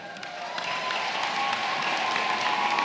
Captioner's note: cheering & applause